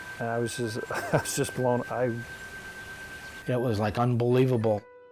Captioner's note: bell note sustains